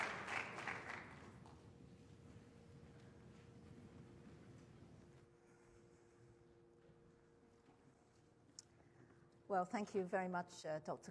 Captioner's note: applause